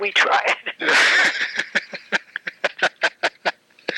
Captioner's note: laughing